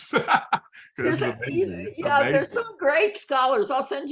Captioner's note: laughs